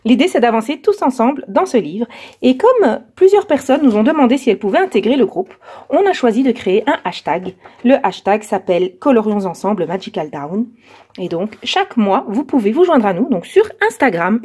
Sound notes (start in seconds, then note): 10.4 in french